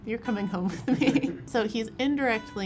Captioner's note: laughing